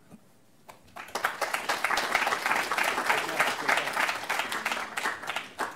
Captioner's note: applause